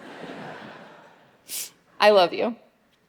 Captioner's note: audience laughing